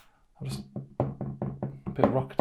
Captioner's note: phone wobbles